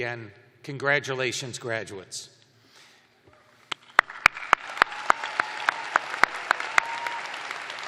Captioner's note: cheers and applause